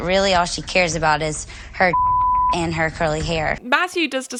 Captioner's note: beep